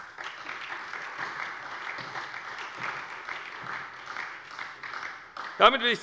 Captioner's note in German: Beifall bei der SPD